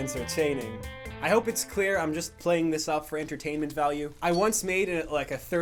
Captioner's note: burning noises playing in background